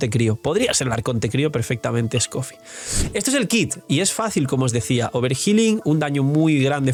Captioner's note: cough